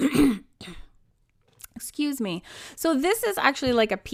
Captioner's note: clearing throat